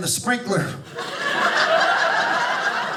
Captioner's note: audience laughing